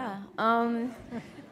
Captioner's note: laughter